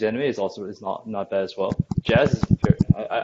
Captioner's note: typing sounds